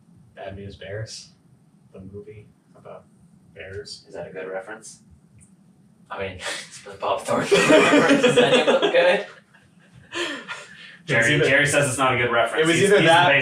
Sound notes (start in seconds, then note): 8.9 all laughing